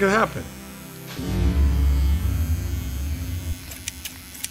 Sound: trimmer buzzing; scissors clicking

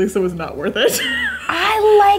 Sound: laughing

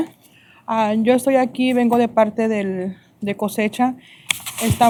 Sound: speaking spanish

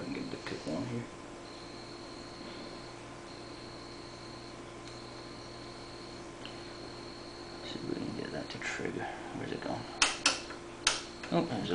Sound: dial clicks

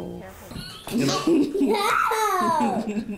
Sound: laughing

